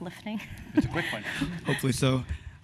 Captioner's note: laugh